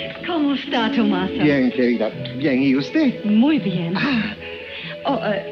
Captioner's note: Helen and Tomaso speaking in foreign language